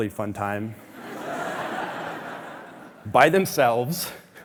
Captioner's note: audience laughing